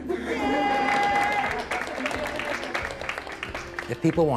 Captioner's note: laughing; applause